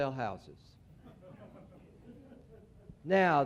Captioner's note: laughter